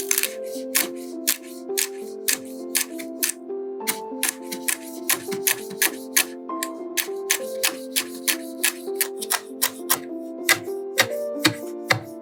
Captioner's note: crisp chopping sounds